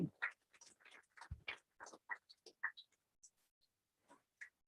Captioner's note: applause